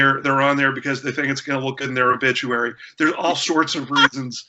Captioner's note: laughter